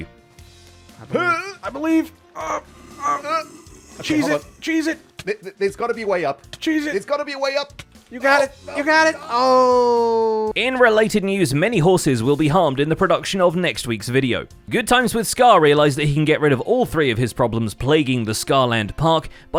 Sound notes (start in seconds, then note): 2.3 Husks groaning; 6.4 damage noises